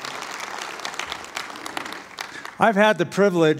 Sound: applause

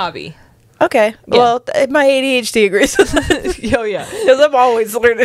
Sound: laughs

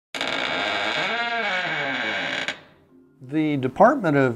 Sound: creepy sound of squeaky door slowly opening

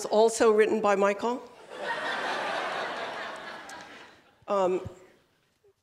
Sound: laughter

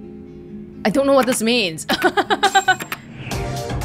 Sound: chuckles

